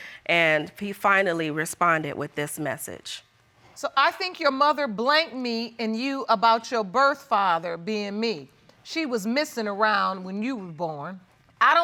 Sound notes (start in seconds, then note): none